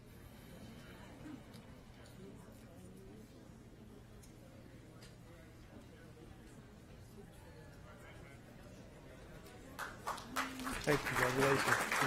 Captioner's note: applause